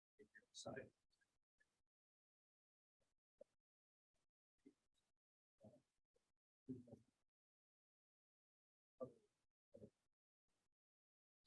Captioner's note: audio drop